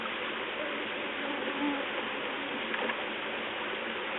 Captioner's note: misquotes buzzing